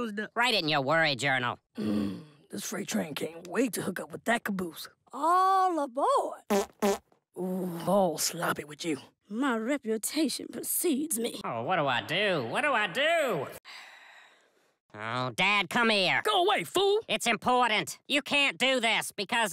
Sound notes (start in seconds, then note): 13.5 sighs